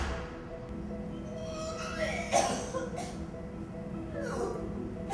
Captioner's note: vomiting